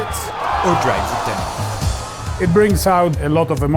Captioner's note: audience cheering